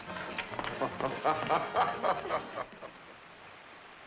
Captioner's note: Frenchy laughs